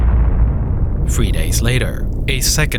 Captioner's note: loud explosion